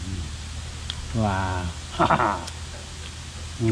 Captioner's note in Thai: หัวเราะ